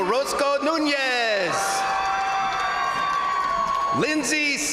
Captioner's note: crowd applauding; crowd cheering